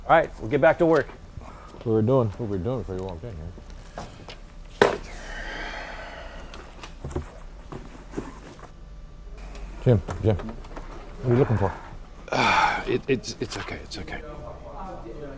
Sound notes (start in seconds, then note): 5.0 Jim sighs; 5.3 phone clatters; 11.1 sighs